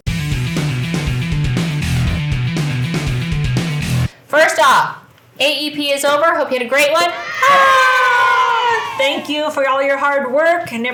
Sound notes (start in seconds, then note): 0.0 upbeat music; 7.0 audience cheers